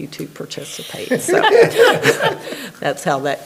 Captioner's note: everybody laughing